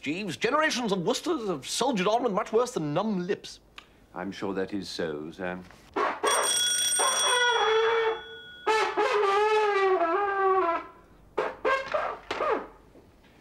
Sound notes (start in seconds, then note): 6.2 doorbell rings; 6.8 shrill trombone sounds